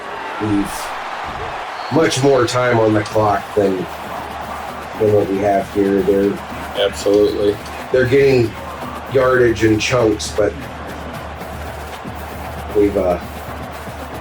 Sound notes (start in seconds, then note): 10.7 crowd Noises